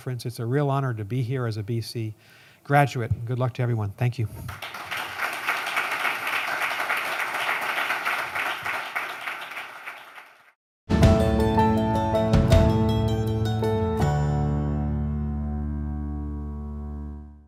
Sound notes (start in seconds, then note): 4.4 applause